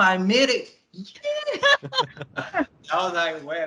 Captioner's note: laughter